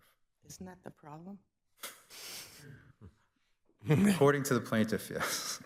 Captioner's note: chuckles